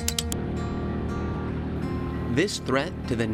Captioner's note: boat motor running